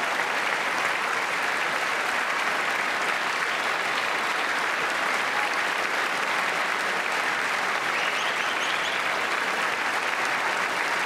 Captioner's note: applause